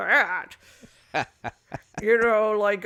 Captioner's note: chuckles